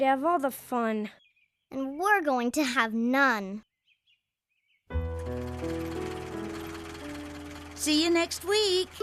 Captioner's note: engine Idling